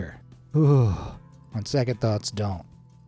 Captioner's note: narrator shudders